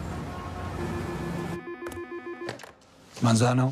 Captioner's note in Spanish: Suena el teléfono